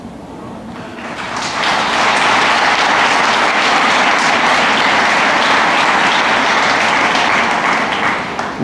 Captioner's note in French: Applaudissements